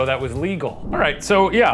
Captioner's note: air whooshing